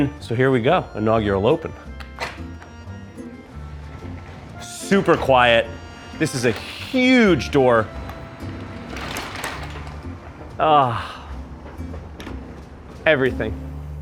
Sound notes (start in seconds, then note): 2.6 garage door motor whirs